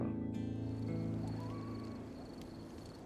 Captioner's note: coyote howling